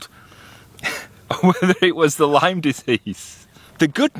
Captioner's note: laughing